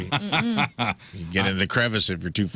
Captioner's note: laughing